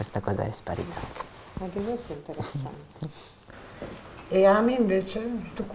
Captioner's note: chatter